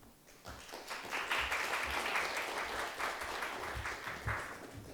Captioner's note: audience applauds